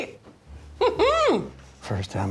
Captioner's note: squeals